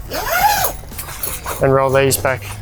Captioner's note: tent zipping